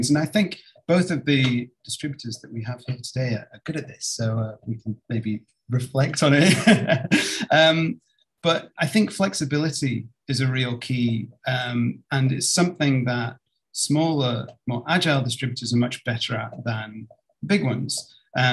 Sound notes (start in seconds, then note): 6.4 laughs